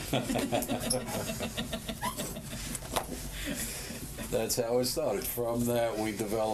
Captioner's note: laughter